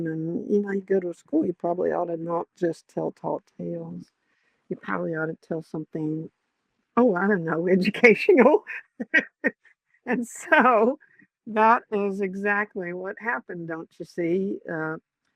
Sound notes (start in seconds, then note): 8.9 laughs